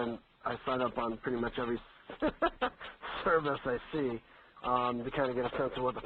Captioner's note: laughs